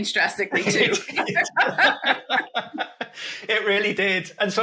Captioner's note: chuckle